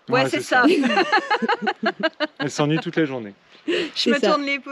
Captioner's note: laughs